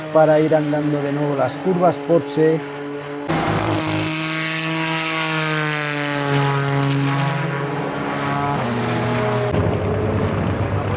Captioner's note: motors